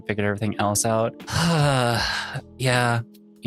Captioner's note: sighs